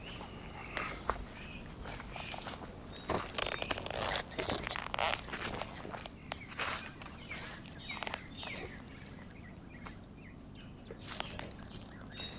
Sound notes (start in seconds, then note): 2.5 grass crunching